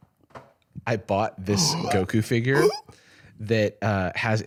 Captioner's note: gasps